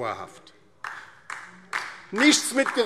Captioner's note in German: Beifall DIE LINKE